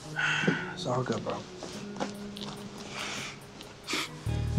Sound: sighs

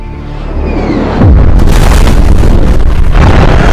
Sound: sonic boom

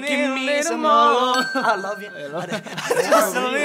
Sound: dinging; laughing

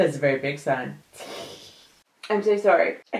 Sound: giggles

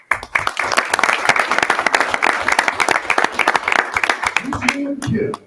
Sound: audience applauding

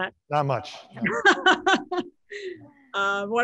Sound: laughs

